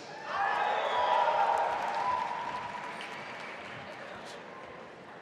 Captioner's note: audience applauding and cheering